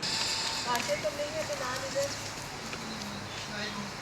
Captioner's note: birds tweeting